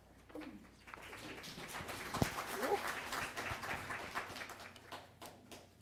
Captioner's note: applause